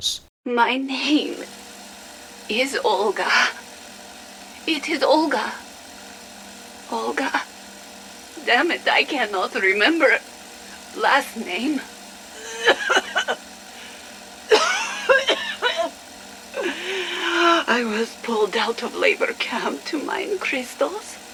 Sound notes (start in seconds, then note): 12.4 coughs